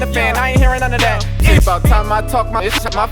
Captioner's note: beep